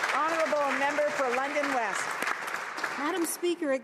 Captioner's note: some Applause